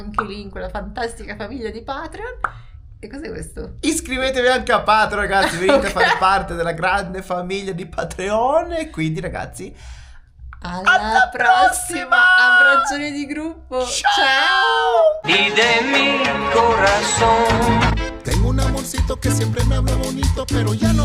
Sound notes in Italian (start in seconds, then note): 5.4 risate